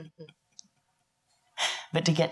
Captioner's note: laughs